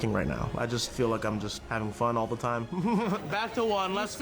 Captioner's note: laughs